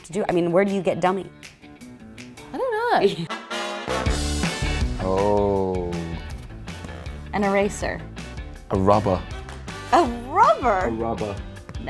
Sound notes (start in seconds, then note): 3.2 chuckles; 3.8 energetic music